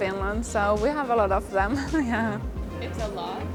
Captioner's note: laughing